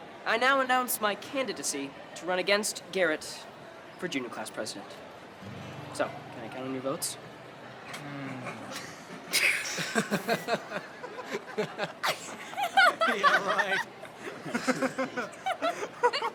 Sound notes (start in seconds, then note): 8.2 friends laughing